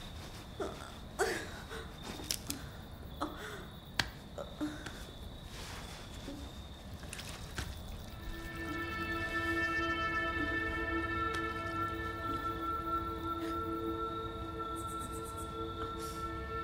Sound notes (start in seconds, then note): 2.9 whimpers